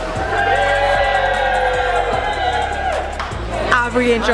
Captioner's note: cheering